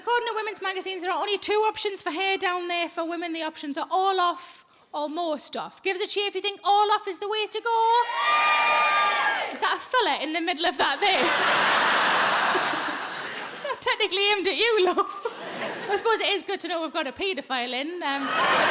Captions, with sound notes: According to women's magazines, there are only two options for hair down there for women. The options are all off or most off. Gives us a cheer if you think all off is the way to go. (audience cheers) Was that a fella in the middle of that there? It's not technically aimed at you, love. I suppose it is good to know we've got a paedophile in.